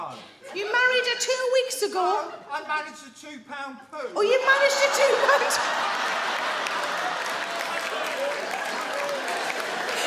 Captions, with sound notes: You married her two weeks ago? No, I managed a two-pound poo! Oh, you managed a two-pound... [THEY ALL LAUGH] [MEN CHEER]